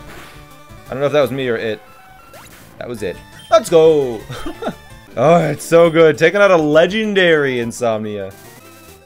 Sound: laughs

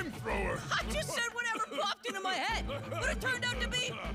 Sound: laughing

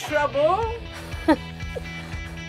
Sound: laughs

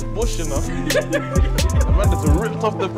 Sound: laughing

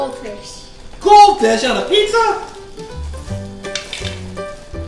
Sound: voiceover

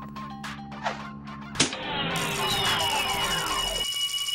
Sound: powering down

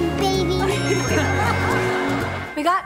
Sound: giggling

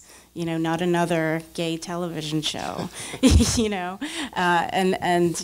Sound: laughs

